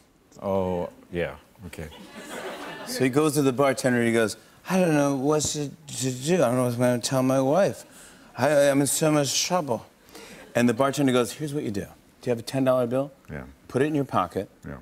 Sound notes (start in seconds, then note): 4.5 slurring; 9.9 normal voice